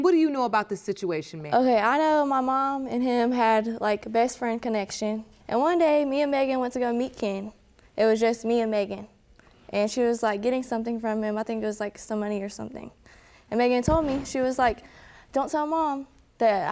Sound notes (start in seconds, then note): none